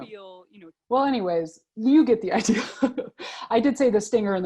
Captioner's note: laughs